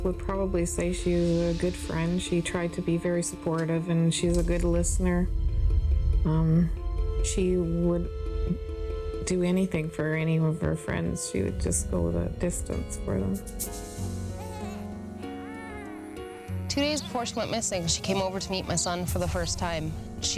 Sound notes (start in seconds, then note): 14.3 baby cooing